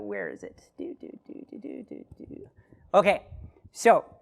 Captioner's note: hums